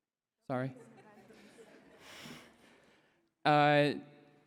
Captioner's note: laughter